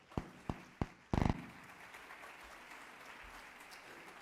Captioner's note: applauding